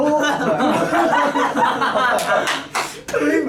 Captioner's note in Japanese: 笑い